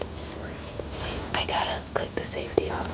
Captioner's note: whispering